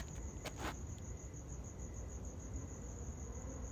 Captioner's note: traffic droning